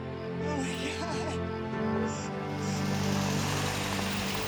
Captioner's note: crying